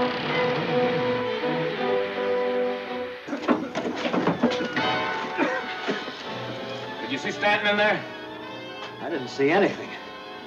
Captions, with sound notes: (Grebb coughs) - Did you see Stanton i? - I didn't see anyt.